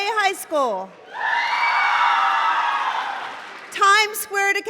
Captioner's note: cheering